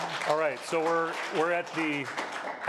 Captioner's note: applause